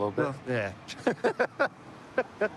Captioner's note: laughter